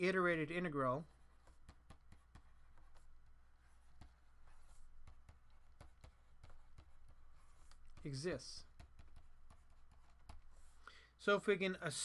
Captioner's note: writing